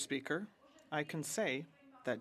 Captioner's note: speaking French